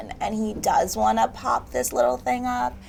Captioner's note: none